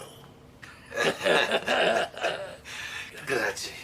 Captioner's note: laughing